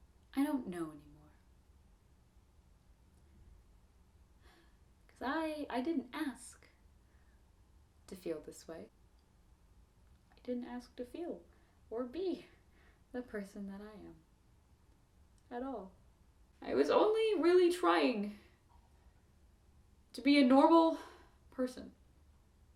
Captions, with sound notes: I don't know anymore. [sigh] I--I didn't ask to feel this way. I didn't ask to feel or be the person that I am. At all. I was only really trying to be a normal person.